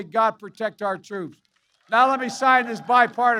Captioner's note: applause